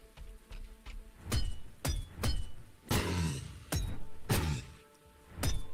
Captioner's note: sword chopping